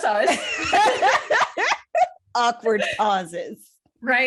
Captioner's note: laughter